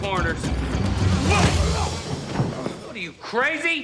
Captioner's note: grunting